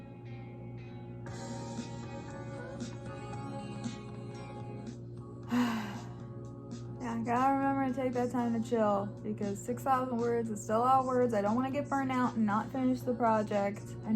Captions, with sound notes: (upbeat music) (sighs) I gotta remember to take that time to chill because 6,000 words is still a lot of words, I don't want to get burned out and not finish the project